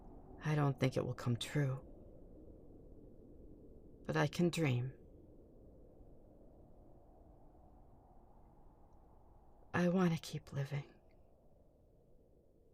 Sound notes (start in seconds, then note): none